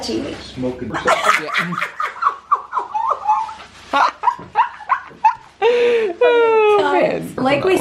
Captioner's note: laughter